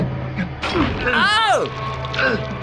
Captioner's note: squeamishly